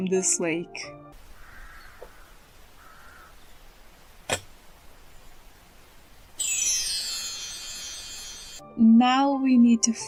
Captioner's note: magic sparkle